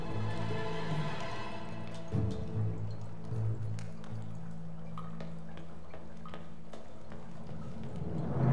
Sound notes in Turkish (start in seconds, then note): 4.8 Ayak sesi